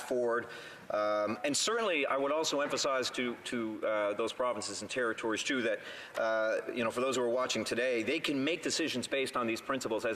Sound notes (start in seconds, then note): none